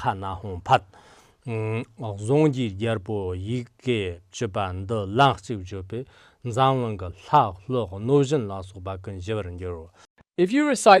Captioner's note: giving oral transmission in Tibetan